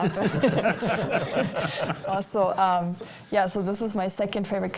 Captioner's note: everyone laughing